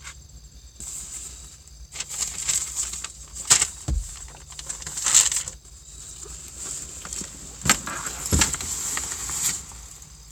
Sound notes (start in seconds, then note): 1.9 plastic bags rustle; 8.2 papers rustle